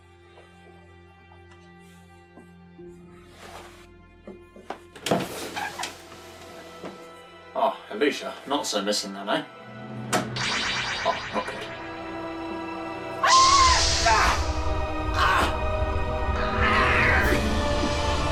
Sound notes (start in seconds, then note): 4.8 door opening sound; 13.1 elisha screams and unleashes blast; 13.2 doctor screams in agony and falls over